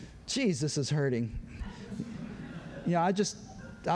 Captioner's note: laughter